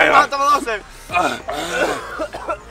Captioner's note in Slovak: kašeľ a iné podivné zvuky #386; kašeľ a iné podivné zvuky #387